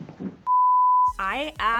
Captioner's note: beep